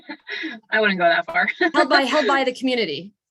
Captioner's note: laughing